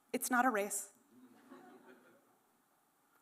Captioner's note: laughter